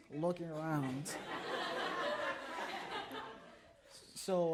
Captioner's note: audience laughs